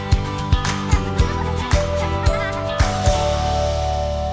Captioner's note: laughs